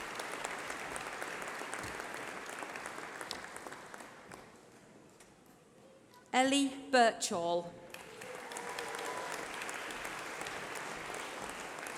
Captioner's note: applause